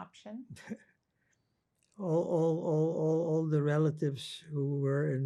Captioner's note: laughing